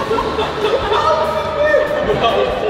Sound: laughter

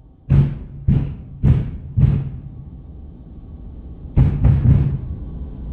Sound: neighbor pounding on wall continues

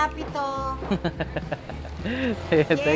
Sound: laughs

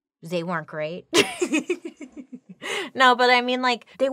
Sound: laughing

